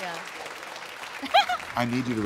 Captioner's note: laughs